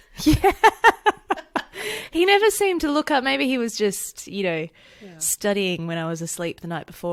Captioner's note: laughs